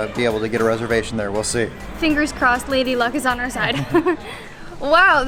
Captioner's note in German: Lacht